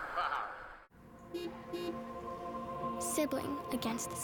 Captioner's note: car horn